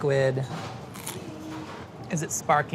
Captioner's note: crunching